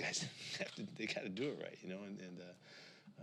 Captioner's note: chuckles